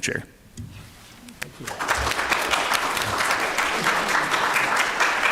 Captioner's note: applause